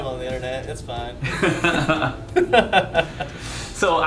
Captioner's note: laughing